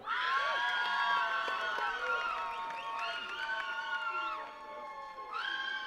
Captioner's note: attendees cheering and clapping